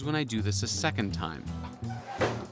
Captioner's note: screeching